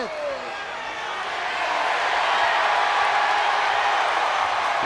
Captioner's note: crowd cheering